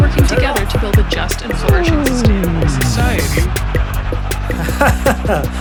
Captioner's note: power down